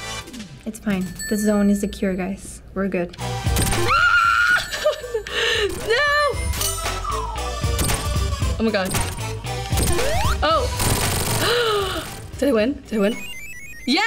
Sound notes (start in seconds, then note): 3.8 screams; 11.4 gasps